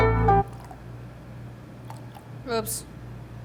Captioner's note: milk sloshing